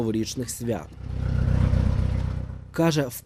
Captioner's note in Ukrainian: Звук тракторного двигуна